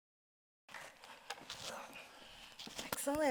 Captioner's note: microphones scratching